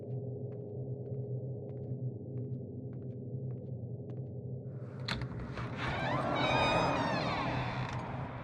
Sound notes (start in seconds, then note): 5.1 door creaks shut